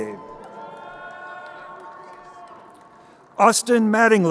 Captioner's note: crowd cheering